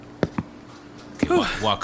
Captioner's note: slow footsteps